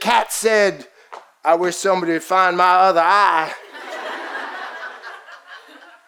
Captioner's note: audience laughs